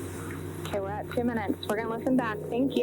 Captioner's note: recording playback